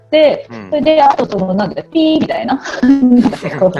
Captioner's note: laugh